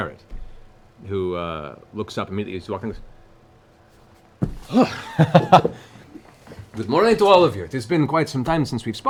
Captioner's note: laughs